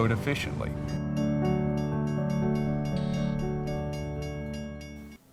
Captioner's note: train crossing bells